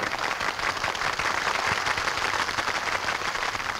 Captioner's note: patrons clap